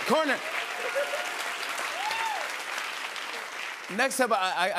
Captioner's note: cheers and applause